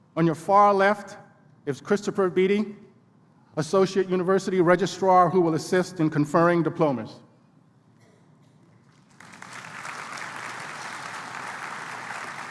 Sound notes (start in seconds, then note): 8.8 applause